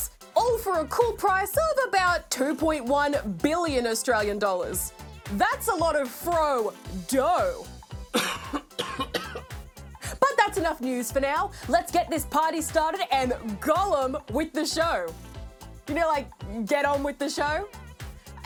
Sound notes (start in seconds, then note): 8.1 man coughs